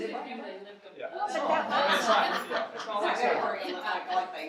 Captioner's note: audience laughing and chattering; audience chattering